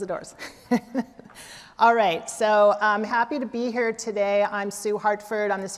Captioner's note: laughter